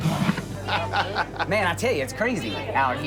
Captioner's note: laughing